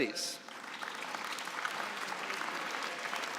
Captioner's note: applause